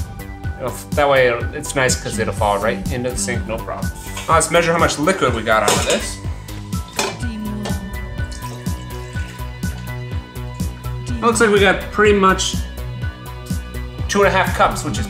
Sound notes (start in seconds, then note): 8.0 liquid splashing